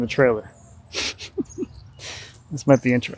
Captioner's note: chuckles